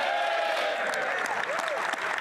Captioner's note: applause